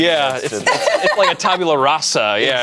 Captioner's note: group laughs